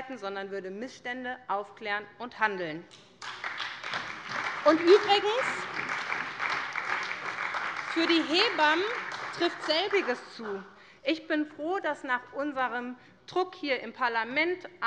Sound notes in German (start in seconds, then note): 3.0 Beifall bei der SPD